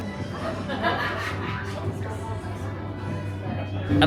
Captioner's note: guest laughing